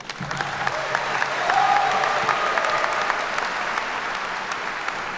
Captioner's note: attendees cheer and clap